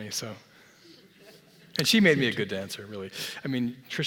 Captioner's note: laugh